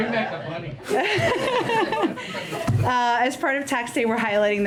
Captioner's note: laughs